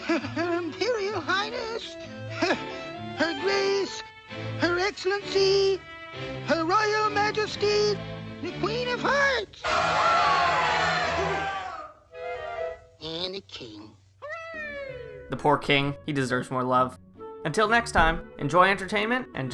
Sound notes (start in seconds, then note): 9.6 crowd cheering